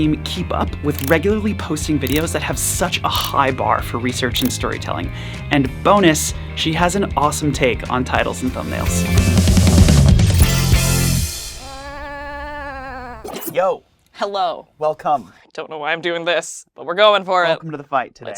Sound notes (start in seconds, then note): 10.0 upbeat music; 11.6 sheep baaing